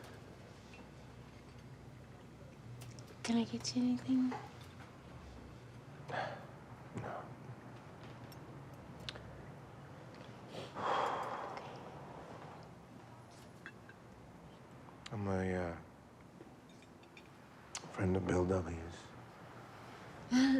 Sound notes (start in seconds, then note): 13.2 Jim sighs; 20.3 waitress chuckles